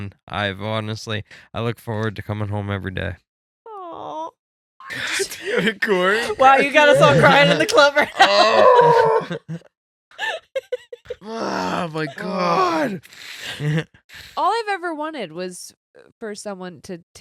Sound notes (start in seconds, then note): 8.1 groans; 9.4 laughing